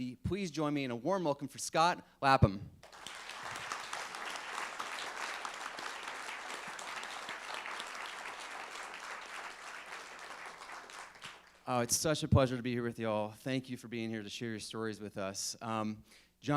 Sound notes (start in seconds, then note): 3.0 applauding